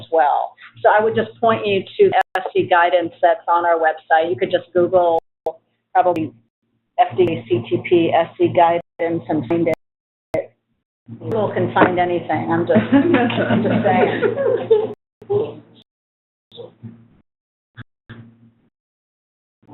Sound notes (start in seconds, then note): 12.8 laughs